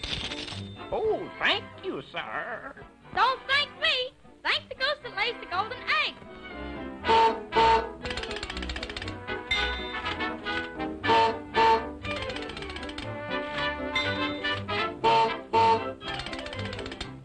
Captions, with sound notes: Oh, thank you, sir. Don't thank me. Thank the goose that lays the golden eggs. (Goose Honks) (Ding) (Goose Honks) (Ding) (Goose Honks)